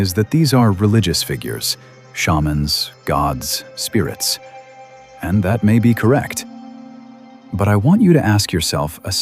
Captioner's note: breath; breath